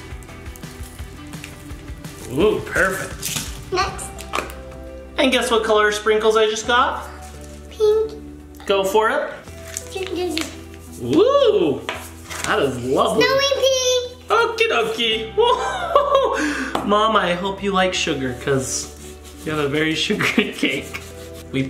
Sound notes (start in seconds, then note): 15.3 laughs